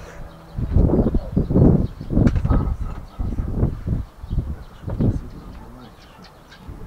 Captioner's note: wind